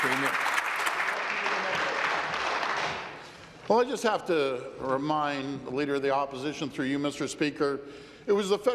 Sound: applause

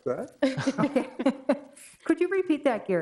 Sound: laughs

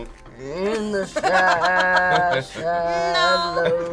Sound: laughing; chuckles

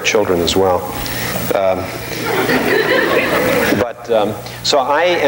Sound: audience laughing

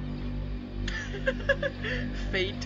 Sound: giggles

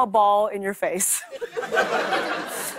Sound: laughter

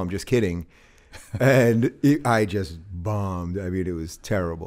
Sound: chuckles

